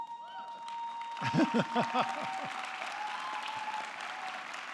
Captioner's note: person laughing